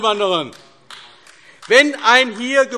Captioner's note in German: Beifall AfD